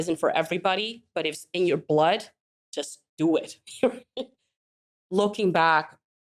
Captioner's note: laughs